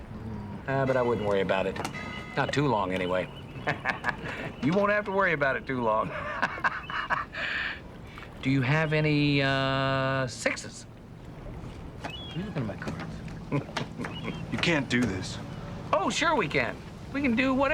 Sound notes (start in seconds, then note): 5.9 Nash laughs; 12.2 chuckles